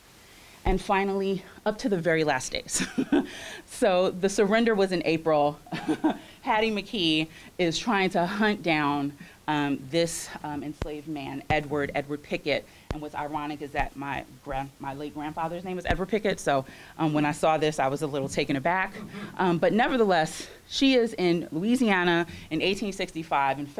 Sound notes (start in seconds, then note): 3.1 chuckles